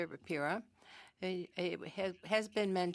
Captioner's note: speaking French